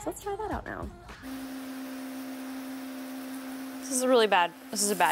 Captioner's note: water pump spraying